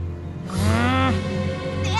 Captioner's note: growl